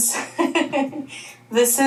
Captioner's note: laughing